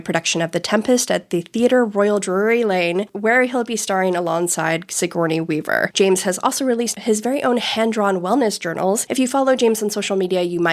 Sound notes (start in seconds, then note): none